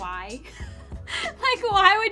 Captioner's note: laughing